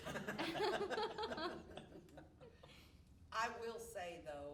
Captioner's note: all laughing